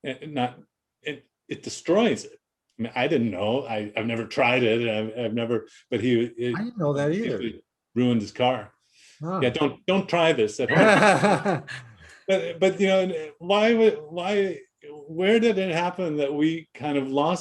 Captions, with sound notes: and it destroys it. I didn't know, I've never tried it, - I don't know that either. - But it ruined his car. But don't try this (laughs) - But where did it happen that we kind of lost our minds